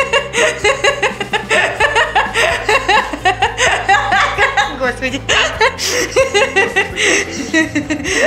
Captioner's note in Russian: смеётся